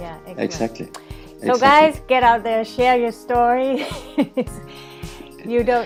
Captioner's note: laughs